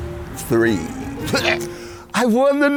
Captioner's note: gags